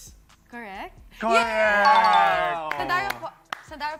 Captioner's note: cheering